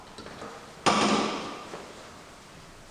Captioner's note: rattling